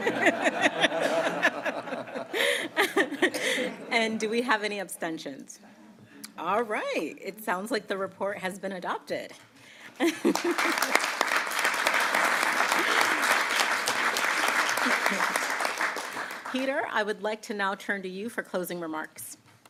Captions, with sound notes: (Laughter.) And do we have any abstentions? All right. It sounds like the report has been adopted. (Applause.) Peter, I would like to now turn to you for closing remarks.